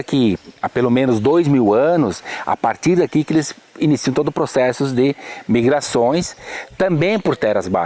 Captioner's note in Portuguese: pássaros cantando